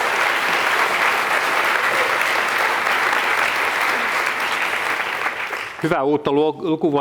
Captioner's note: applause